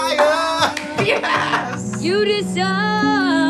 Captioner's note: both laughing